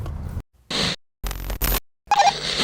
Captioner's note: static